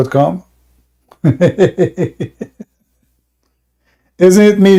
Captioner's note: Ketawa